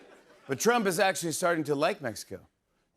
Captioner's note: normal voice